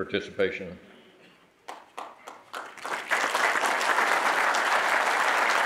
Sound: audience applauding

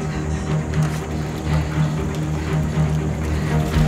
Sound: taking deep breaths

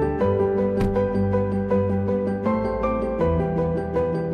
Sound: car door slams

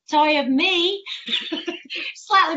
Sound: laughs

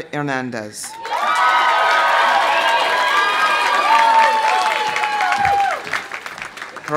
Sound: audience cheering; audience applauding

